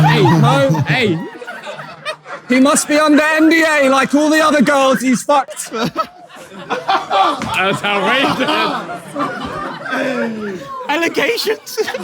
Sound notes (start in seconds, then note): 5.6 Tobi giggles; 5.6 audience laughs loudly